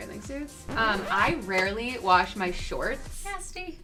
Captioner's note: record scratch